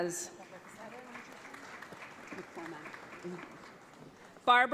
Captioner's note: audience applauds